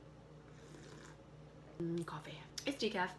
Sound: slurp

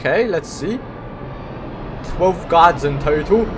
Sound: wheel spinning fast wow

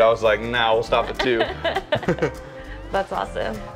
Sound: both laughing

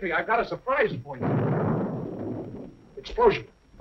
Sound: explosion

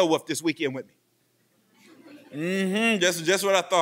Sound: laughing

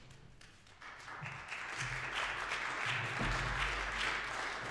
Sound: applause

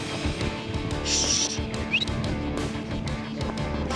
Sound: whistles

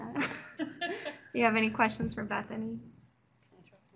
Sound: giggles

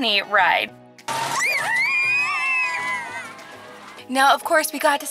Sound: children screaming

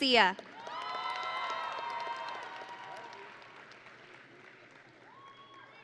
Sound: audience and graduates cheering

